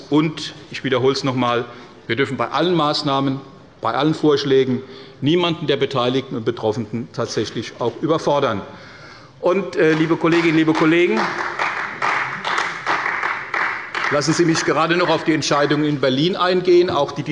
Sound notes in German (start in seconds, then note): 9.8 Beifall bei Abgeordneten der CDU